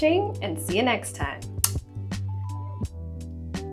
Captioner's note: blows kiss